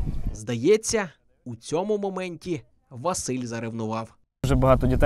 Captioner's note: voiceover